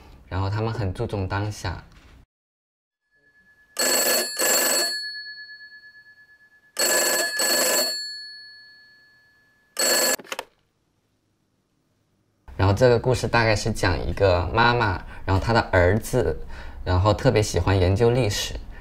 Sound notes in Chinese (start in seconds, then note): 3.2 电话响声